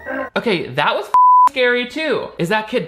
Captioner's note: beep